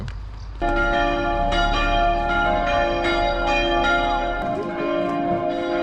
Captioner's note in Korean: 결혼식의 시작을 알리는 종소리